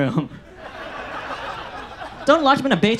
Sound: audience laughs

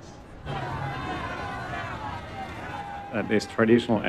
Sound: crowd shouts

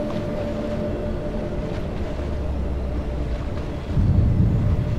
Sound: water splashing

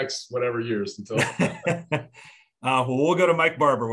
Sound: laughter

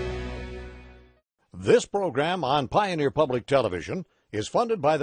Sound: voiceover

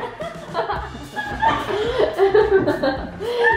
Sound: laughing

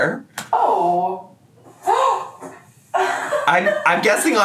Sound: gasps

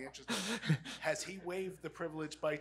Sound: laughs

